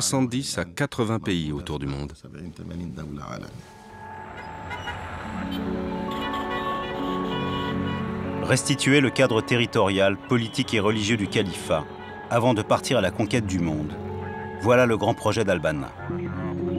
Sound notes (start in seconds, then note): 4.3 traffic noises; 5.8 background music